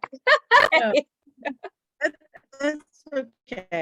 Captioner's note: laughing